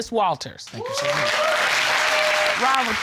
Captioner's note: audience exclaims